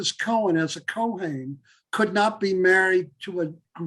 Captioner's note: Hebrew